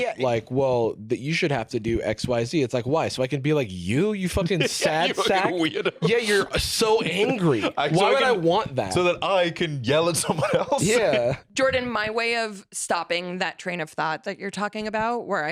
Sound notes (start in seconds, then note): 4.2 laughing